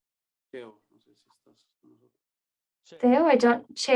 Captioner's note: speaking in Spanish